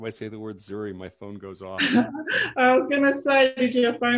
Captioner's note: laughs